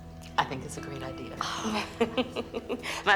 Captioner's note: Mirtala sighs softly